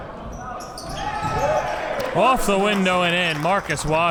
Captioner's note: crowd cheers